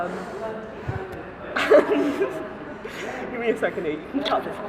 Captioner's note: laughter